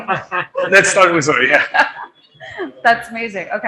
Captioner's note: laughing